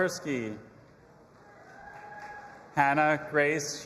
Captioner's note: audience applauding and cheering